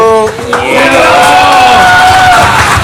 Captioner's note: applause